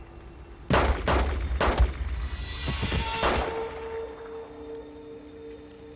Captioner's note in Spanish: Disparos